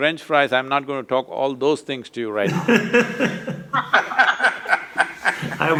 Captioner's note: laughter